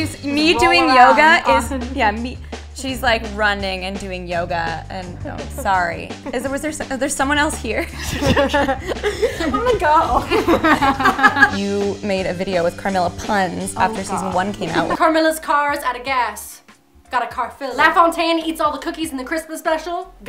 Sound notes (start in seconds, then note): 6.2 stammers; 7.8 laughter